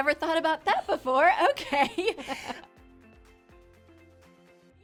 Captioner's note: laughs